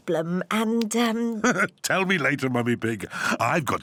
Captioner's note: laughs